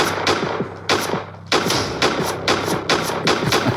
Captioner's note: gun firing